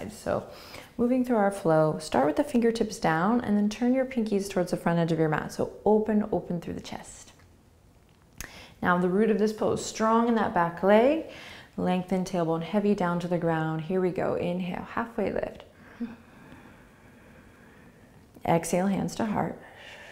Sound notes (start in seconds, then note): 15.8 inhaling